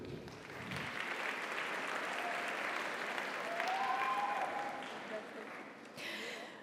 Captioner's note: audience applauds; audience cheers